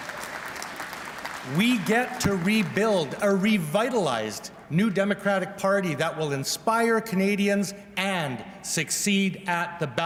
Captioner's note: applause